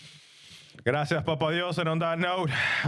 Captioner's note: speaking In Foreign Language